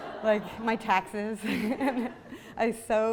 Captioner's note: laughs